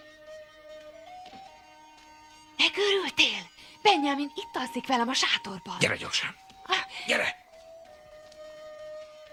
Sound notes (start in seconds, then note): 3.2 whispers